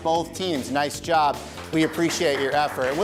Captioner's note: audience clapping